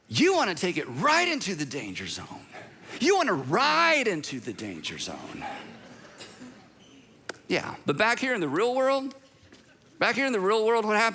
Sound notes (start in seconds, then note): 4.7 congregation laughs